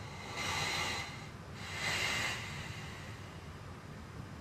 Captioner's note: Billy deeply breathes